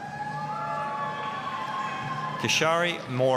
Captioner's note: applause, cheering